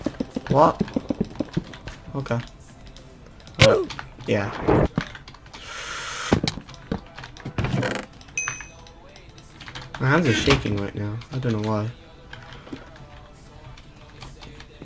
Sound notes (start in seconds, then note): 5.5 inhales